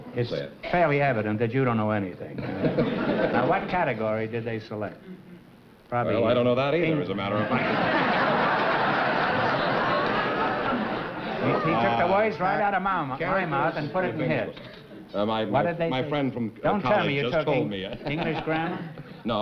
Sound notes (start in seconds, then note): 7.4 laughter